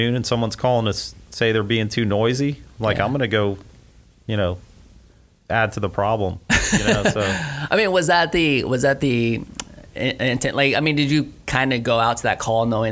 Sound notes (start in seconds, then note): 6.5 laughs